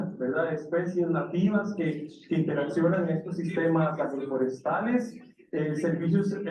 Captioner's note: speaking in foreign language continues